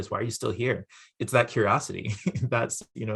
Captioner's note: laughs